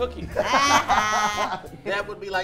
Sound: group laughs

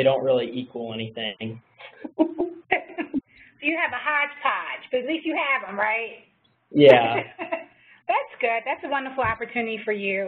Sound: laugh

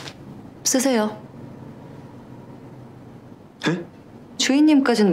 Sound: speaking Korean

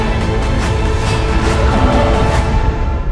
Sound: music swells; vhagar roars

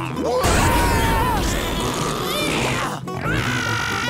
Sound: screaming; grunting

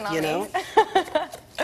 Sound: laughing

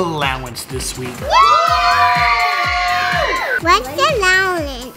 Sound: all cheer

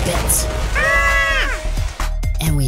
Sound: Gigglebots screaming

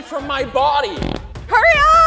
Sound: fart sound

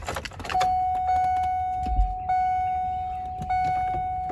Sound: car starter beeping

